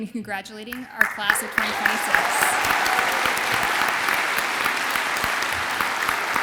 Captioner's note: audience applauds and cheers